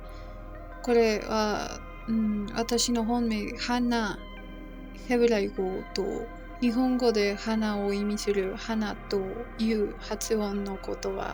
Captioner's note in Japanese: ヘブライ語